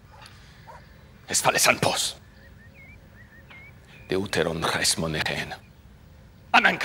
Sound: Themistocles speaking in foreign language

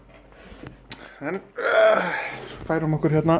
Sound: grunts

